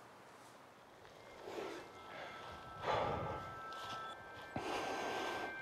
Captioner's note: breathes heavily